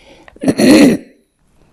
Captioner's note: coughing